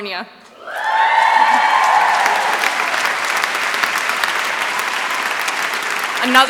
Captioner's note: applause